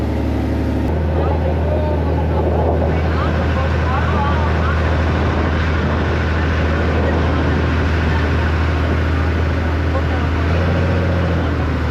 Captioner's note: sound from Boat Engine and Wind